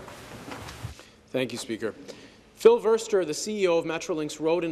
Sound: some Applause

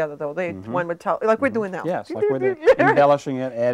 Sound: beeping

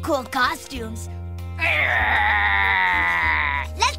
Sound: growls

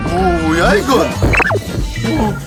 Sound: panicking

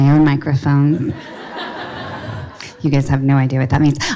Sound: audience laughing

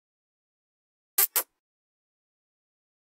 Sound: sound of kiss

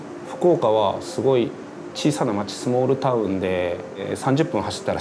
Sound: speaking in Japanese

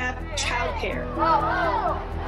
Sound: chanting

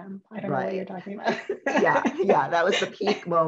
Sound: chuckles

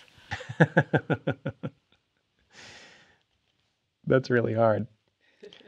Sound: laughs

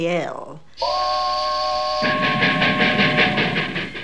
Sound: whistle and puffing smoke

